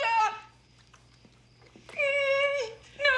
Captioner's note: sobbing